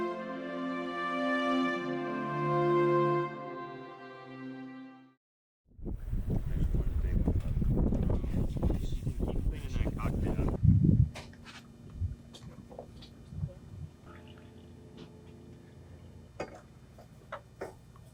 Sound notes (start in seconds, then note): 0.1 music fades; 5.8 soft wind, sounds of students moving on the boat